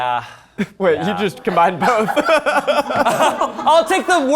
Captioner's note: laughs